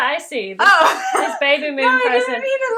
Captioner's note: laughing